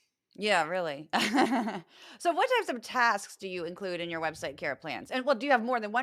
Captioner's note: laugh